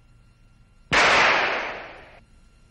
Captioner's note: gunshot